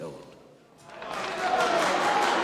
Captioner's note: cheering and applauding